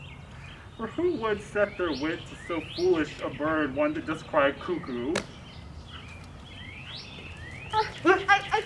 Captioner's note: talking